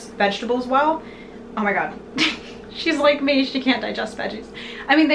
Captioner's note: laughs